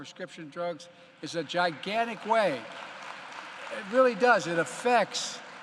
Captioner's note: applause